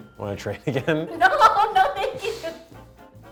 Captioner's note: laughs